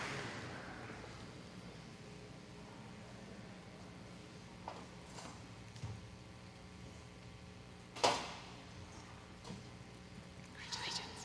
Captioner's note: audience applauding